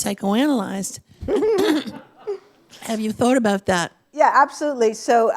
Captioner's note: laughter